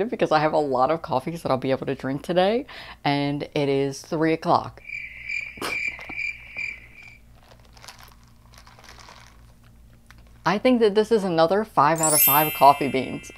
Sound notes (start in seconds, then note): 4.8 crickets chirping